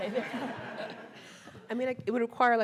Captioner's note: audience laughing